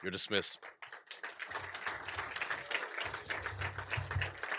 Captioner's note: applause